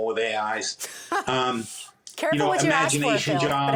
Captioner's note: laughs